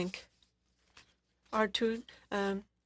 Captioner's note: speaking French